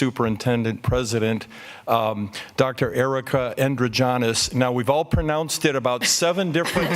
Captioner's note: laughter